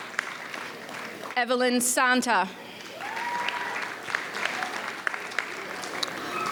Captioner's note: audience applauds; audience cheers